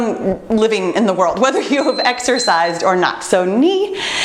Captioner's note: timer beeps